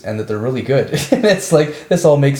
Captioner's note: man laughs